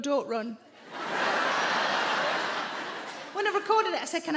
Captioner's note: audience laughing